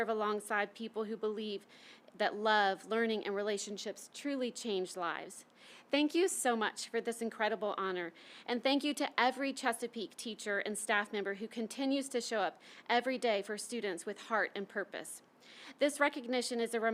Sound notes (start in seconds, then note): none